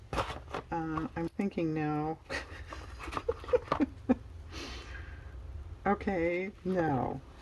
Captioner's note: laughs